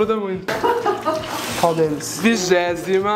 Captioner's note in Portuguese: risos